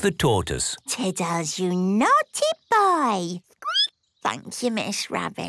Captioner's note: squeaking